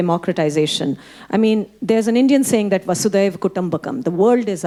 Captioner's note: speaking Hindi